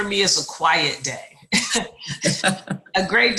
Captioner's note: chuckles